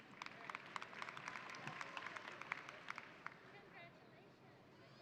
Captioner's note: audience applauding